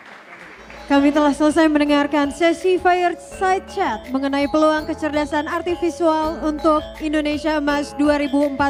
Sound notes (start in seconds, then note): 2.4 speaking indonesian